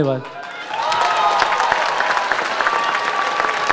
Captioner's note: audience cheers